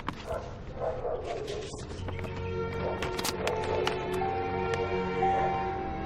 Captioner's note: dog barking; open car door alarm